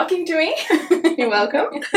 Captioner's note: both laugh